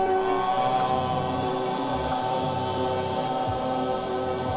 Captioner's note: chanting